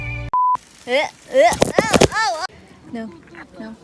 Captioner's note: weird falling noises